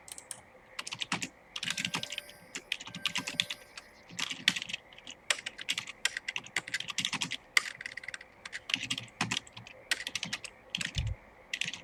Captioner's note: typing sounds